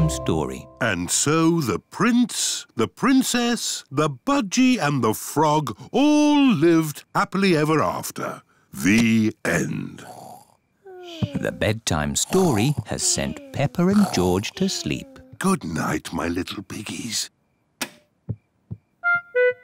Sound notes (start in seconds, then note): 10.1 both snore; 17.7 light switch clicks